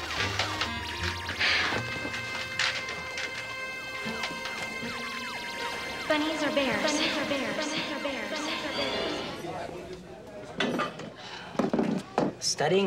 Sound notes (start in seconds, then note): 5.6 echoing